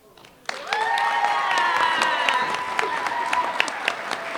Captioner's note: applause